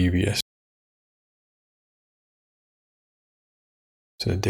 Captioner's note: blank Audio